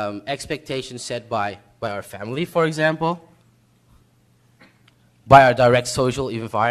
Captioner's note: none